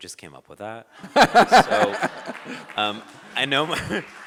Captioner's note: audience laughing